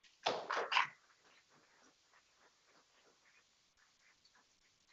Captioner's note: people clapping